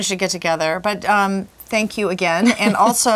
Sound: chuckles

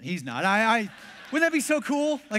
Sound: congregation laughs

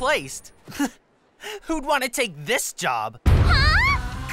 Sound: laughing

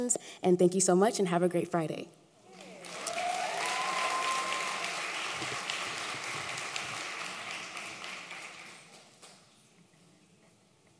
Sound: applause

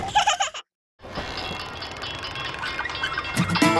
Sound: bumblebee truck giggles; bell dinging; energetic instrumental music

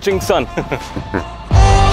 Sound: painful laugh

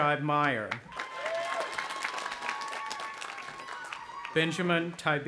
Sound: audience applauding and cheering

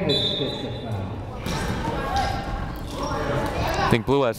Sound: whistle blowing

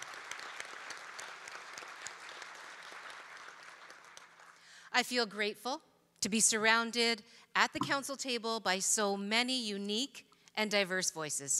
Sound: applause

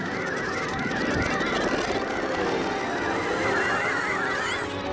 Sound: alarm sounding

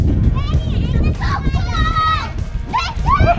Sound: shouting

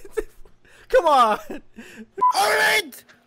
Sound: laughter

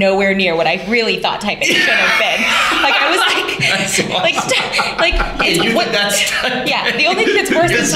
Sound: laughter

